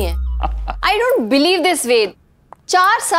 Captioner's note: Ved laughs